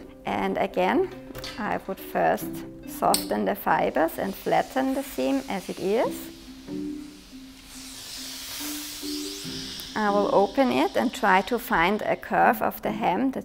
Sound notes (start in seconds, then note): 7.8 iron hisses